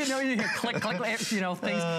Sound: laughter

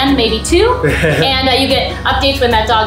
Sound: chuckles

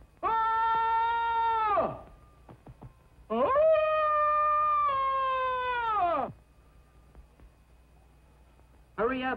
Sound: screaming

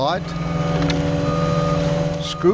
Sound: machinery beeping and whirring

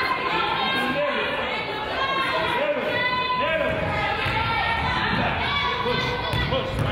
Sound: crowd chatters; coaches yelling

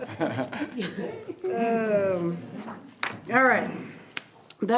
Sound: group chuckling

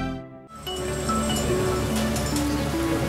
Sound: phone ringing

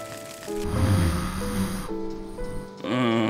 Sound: snoring; moaning

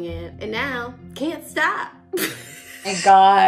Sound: laughs

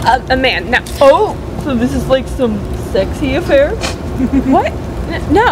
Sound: snickers

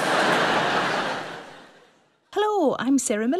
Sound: audience laughs

